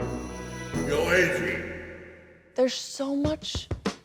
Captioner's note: Sylvester's voice